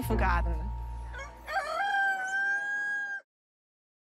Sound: rooster crows

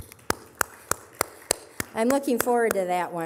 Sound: applause

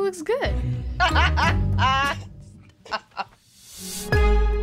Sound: Simone laughs

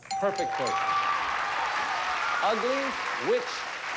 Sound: audience applauding

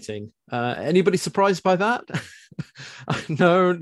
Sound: chuckles

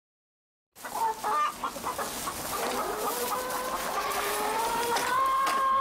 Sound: chickens calling

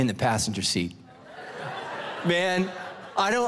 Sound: congregation laughing

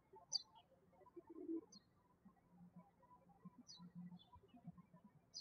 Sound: birds chirping

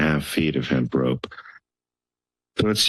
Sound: pause

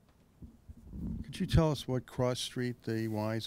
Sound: voiceover

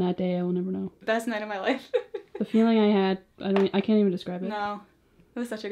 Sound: laughs

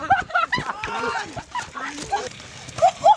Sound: all laughing

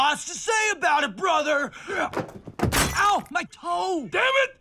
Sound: glass breaking

